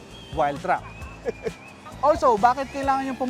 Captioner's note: laughs